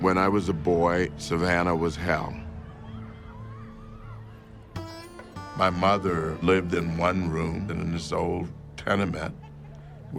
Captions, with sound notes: When I was a boy, Savannah was hell. [crowd chattering] My mother lived in one room in this old tenement